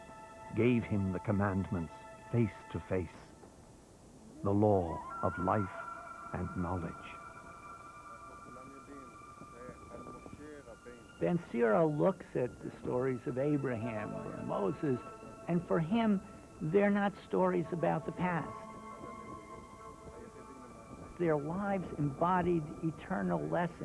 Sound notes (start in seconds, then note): 7.9 Moses Talking In Hebrew